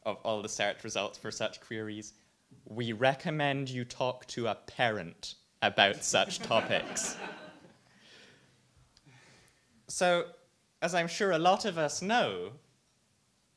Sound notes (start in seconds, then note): 6.0 audience laughs